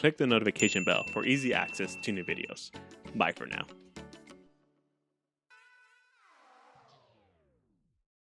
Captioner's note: bell ding sound